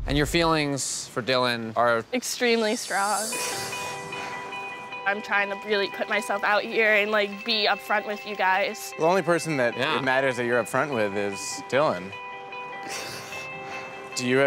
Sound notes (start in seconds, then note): 3.4 uplifting rock music; 3.6 crying; 12.7 crying